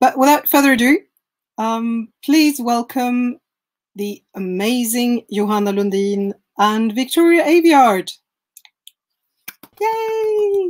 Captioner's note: clapping